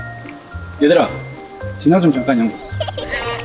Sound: laughing; holding back laughter

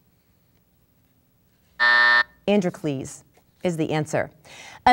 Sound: buzzing

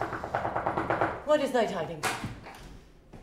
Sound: knocking

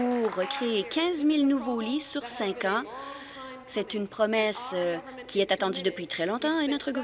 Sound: applause

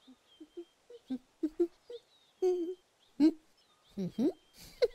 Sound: humming; giggles

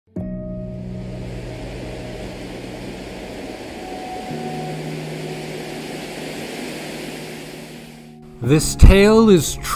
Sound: dramatic music; sounds of ocean waves

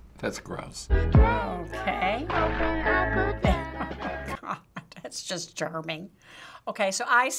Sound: chuckles

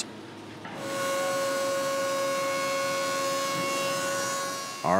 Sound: table Saw Sounds

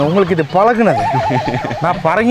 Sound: laughs

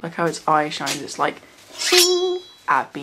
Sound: knife being drawn

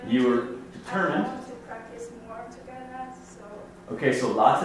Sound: voiceover

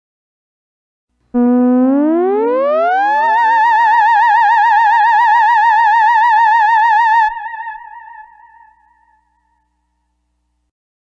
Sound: sound of sci-fi scare

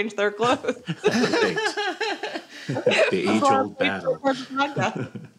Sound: laughs

